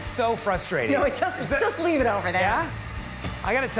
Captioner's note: laughing